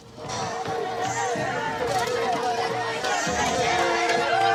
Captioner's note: clamoring